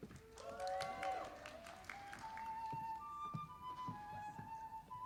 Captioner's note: audience applauding